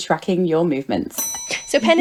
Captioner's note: bell